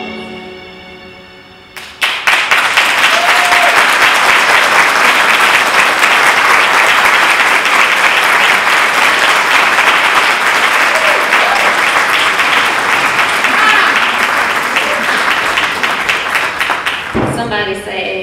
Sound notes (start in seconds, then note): 1.7 applause